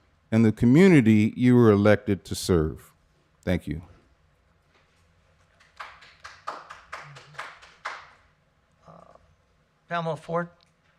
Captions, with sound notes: and the community you are elected to serve. Thank you. (applause) Pamela Ford.